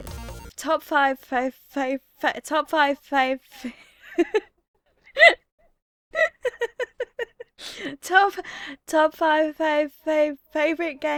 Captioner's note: bursts out laughing